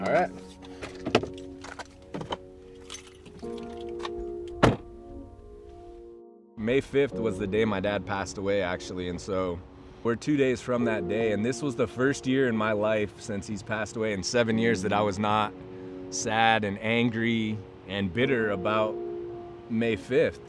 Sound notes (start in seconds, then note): 0.0 items clunking; 3.2 vehicle door shutting